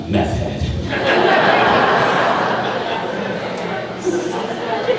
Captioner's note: crowd laughing